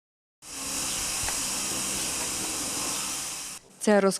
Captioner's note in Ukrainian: шум від роботи обладнання